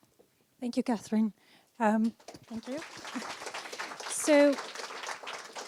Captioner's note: applause